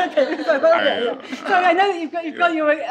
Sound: participants laughing

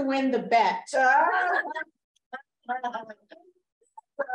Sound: laughter

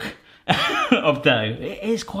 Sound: chuckling

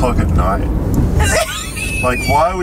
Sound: laughing

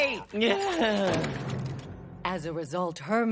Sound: sighing

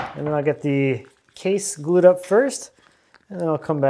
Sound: none

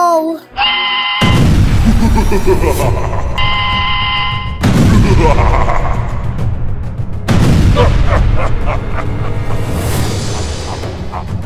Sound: explosion sounds

